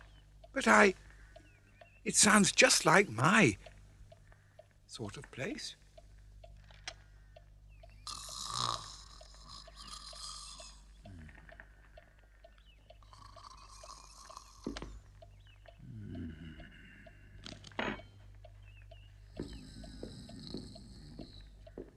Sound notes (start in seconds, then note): 8.0 snores; 13.0 snoring continues; 19.4 snoring continues